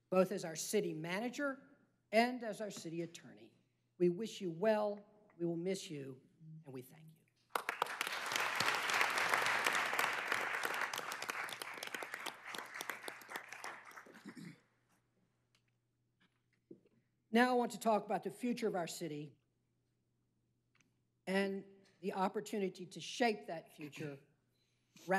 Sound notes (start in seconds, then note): 13.8 applause